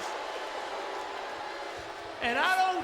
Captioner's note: crowd clamoring